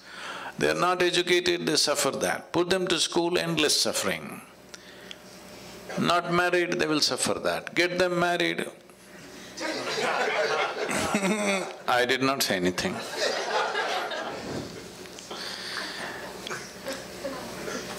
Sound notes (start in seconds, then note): 9.6 laughter; 16.0 laughter